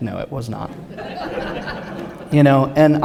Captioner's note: laughter